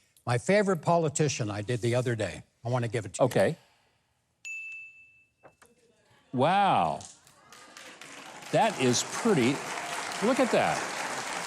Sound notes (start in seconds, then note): 4.4 bell dings; 7.2 audience applauding